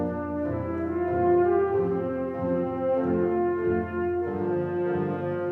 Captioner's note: none